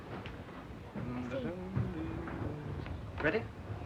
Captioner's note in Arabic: يدندن جيلبرت